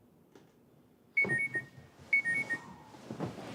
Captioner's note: alarm beeps